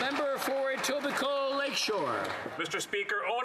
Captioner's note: some Applause